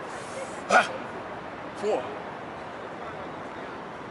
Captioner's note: grunts